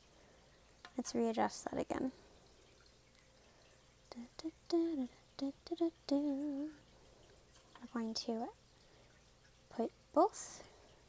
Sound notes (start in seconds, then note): 5.3 humming